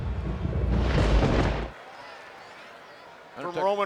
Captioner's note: thunder rumbles